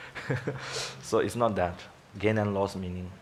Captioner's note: laughs